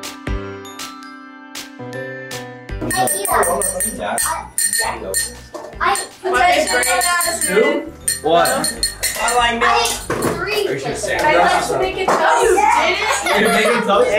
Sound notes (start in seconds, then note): 2.8 glass rings; 3.0 family chatters excitedly; 12.8 family chatters excitedly